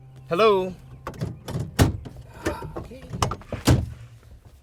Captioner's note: clanging